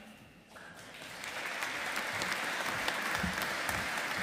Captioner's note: audience applauding